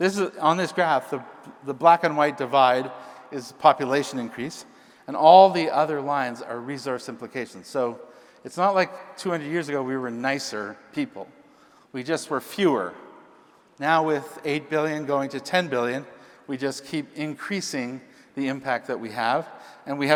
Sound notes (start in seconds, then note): none